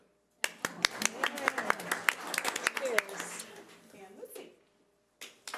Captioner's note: audience applause